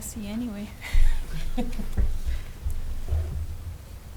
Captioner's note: laughing